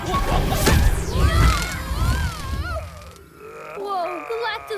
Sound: growling

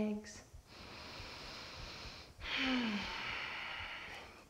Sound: deep breath

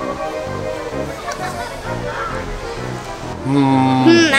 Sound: cackling in the distance

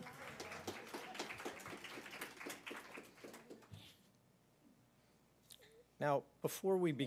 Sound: applause

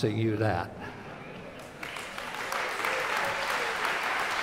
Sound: applause

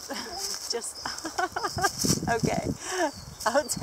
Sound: laughs

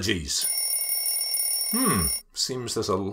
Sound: alarm ringing

